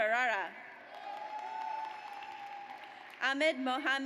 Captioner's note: audience cheers